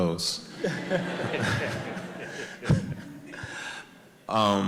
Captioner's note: audience laughs